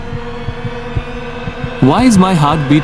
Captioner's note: fast heart beat